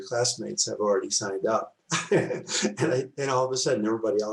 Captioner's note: laughs